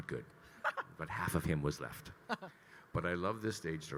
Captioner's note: laughing